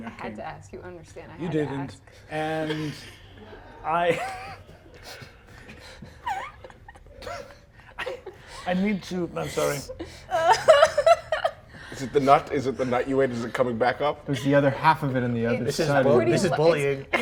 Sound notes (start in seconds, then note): 2.4 laughs; 4.1 soft laughter; 10.2 laughs